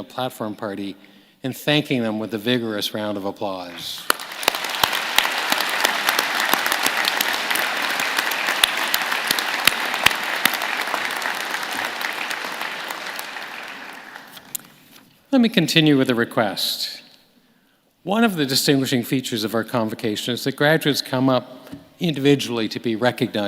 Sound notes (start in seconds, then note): 9.1 applause